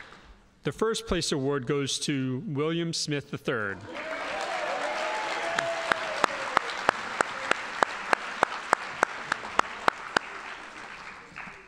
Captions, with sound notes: The first place award goes to William Smith III. (audience applauding)